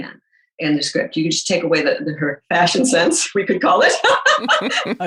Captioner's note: laughs